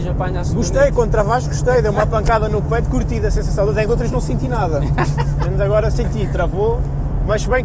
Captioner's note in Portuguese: laughing of the poor scared guy